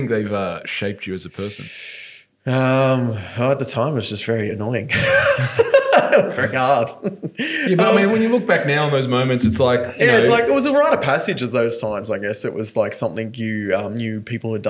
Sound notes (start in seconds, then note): 4.9 laughing